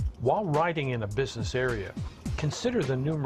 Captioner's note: voiceover